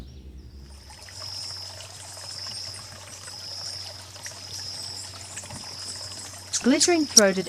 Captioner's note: birds chirping and singing; birds chirping; water flowing